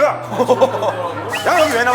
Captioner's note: ha ha ha